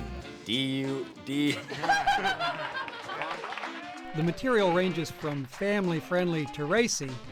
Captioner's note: laughing